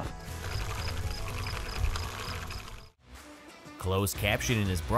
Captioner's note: seeder rumbling